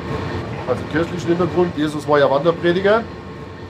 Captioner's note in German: none